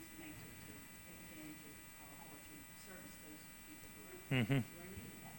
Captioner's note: person speaking off mic